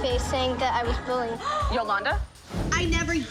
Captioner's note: gasps